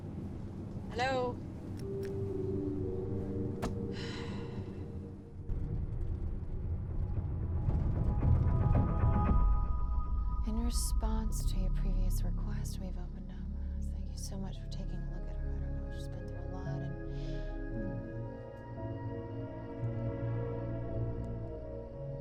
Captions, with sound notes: Hello? (soft ominous music) (sighs) (moves into intense dramatic music) - In response to your previous request we've opened a, thank you so much for taking a look at her, she's been through a lot and, hm. (slow ominous music)